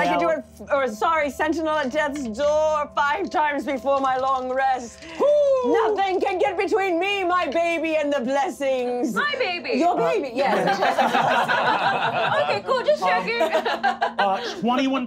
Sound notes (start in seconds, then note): 10.4 laughing